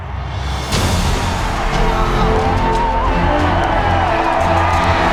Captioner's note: cheering